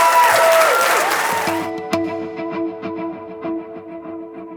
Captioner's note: applause